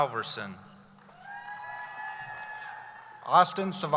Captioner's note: cheering